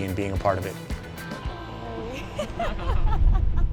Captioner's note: laughter